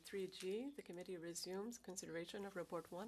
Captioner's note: speaking French